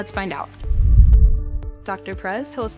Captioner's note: screen whooshes